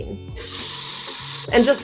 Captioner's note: tap water running